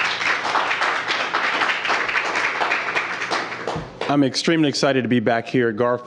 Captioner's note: applause